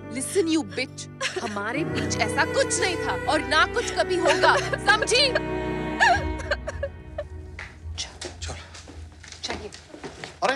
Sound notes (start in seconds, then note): 5.9 Sobbing